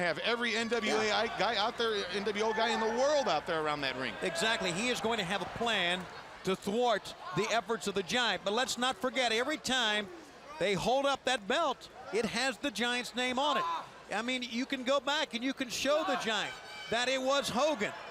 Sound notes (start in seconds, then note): 4.9 crowd chatter